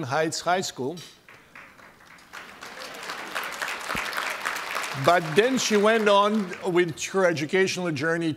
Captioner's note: applause